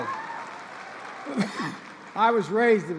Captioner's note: applause